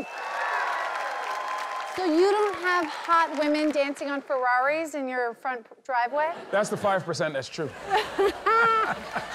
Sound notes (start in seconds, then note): 0.0 applause; 7.8 all laugh